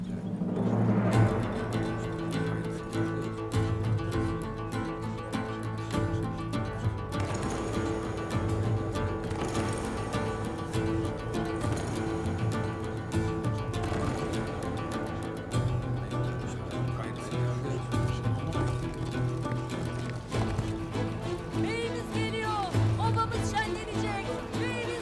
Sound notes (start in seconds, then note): 0.1 Müzik - Vurmalılar ve dombra; 8.8 At nalı sesi